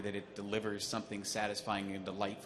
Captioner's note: none